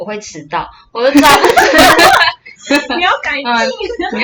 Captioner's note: laughter